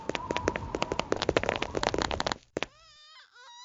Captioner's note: bounce, roll, smack